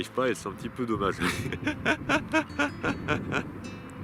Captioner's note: laughs